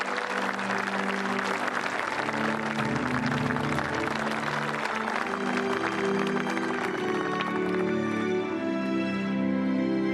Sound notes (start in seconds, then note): 7.1 applause